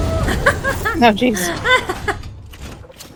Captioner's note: laughs maniacally